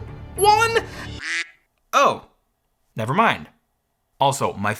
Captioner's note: duck quacks